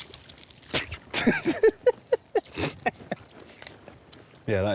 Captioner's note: romesh spits, mike laughs